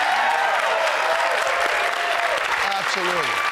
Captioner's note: cheers, applause